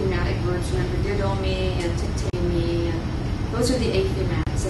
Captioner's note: non-english